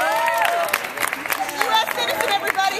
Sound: cheers

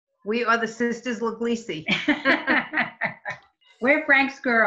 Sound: chuckles

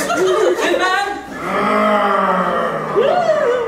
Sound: distant growling

